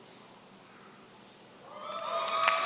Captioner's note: applause